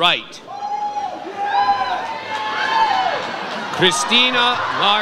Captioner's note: audience cheers